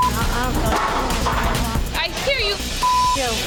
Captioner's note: beep